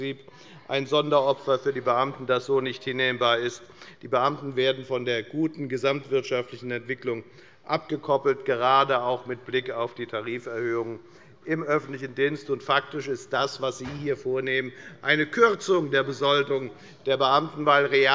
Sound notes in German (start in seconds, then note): none